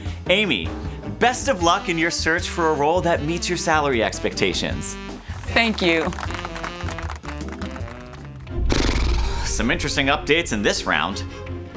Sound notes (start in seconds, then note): 5.2 applause